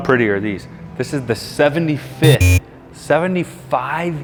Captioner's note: buzzer rings